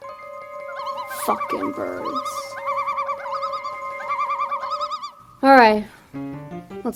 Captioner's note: birds chirping